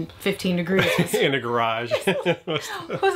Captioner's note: laughs